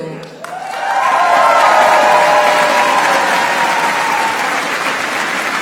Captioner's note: applause